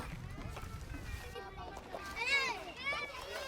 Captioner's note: children shouting